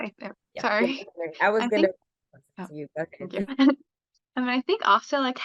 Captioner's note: laughs